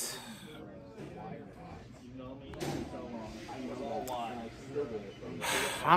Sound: Students chattering at Purdue Fort Wayne's Walb Student Union

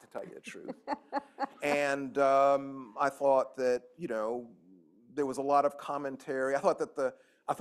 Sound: laughter

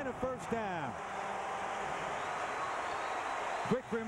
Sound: cheering, applause

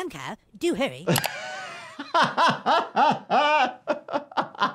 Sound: laughs

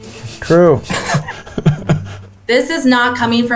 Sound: men laugh

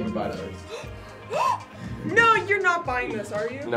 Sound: gasps

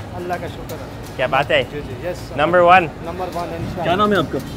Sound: speaks in foreign language

